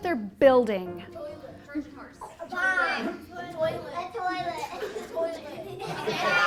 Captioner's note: laughter